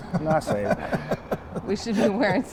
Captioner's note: laughter